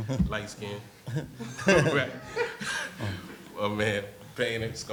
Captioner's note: laughs